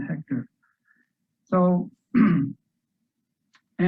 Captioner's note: clears throat